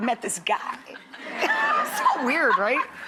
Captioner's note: Priyanka laughs